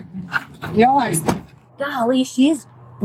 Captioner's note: door slams